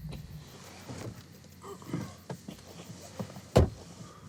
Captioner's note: Jim groans softly; door slamming